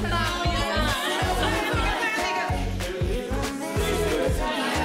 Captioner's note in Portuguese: falatório